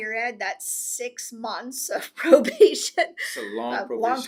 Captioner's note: laughs